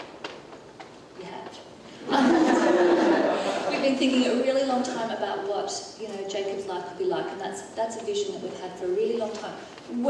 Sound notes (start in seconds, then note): 2.0 audience laughing